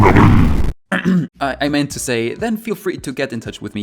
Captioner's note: harumph